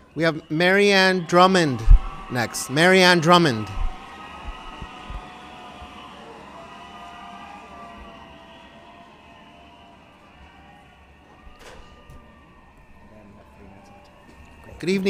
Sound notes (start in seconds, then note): 4.4 distant cheering, yelling